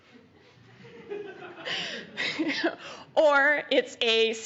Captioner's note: laughter; chuckling